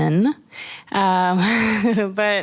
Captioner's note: laughing